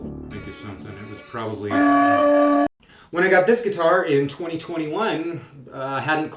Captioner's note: loud bell tolls